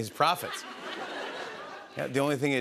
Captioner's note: laughter